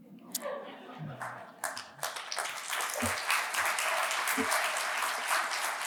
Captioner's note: audience chuckling and applauding